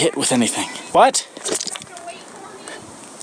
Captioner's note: yells in the distance